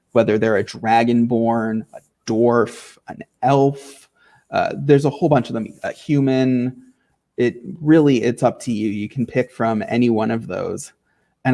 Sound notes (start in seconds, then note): none